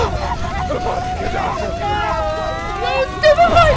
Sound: sounds of battle and death

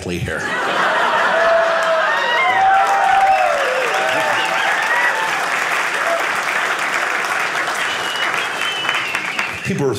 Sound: audience cheering

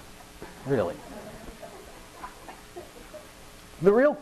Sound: audience laughing

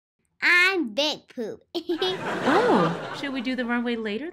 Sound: giggles

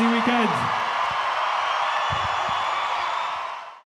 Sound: crowd cheers

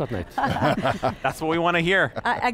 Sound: all laugh

